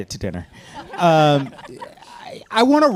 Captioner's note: panelists laughing